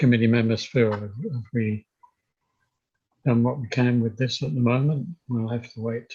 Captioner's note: tech glitch